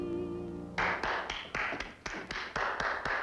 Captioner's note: applause